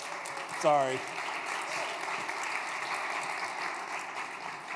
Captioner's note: applause